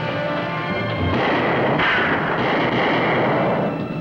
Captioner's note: guns fire